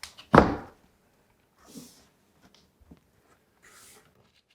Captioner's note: sill thudding